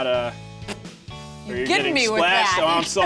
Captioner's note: spits